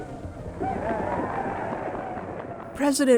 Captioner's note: audience applauding